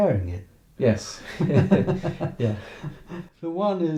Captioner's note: laughing